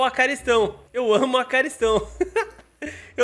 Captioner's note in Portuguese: risos